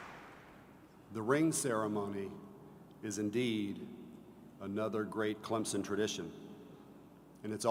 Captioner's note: applause